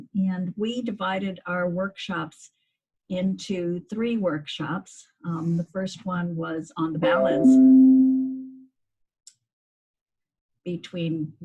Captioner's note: computer noise